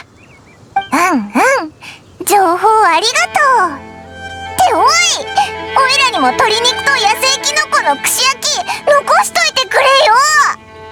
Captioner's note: gasp